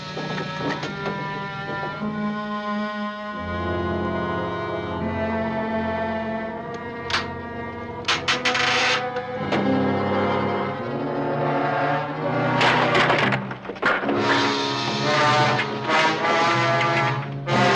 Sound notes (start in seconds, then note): 7.9 board creaking; 13.7 suspenseful music